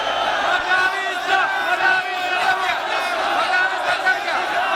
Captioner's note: chanting in protest